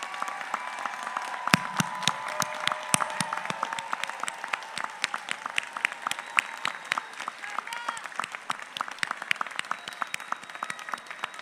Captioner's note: applause